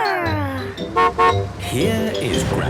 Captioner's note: horn honking